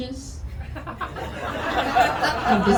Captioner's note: audience laughing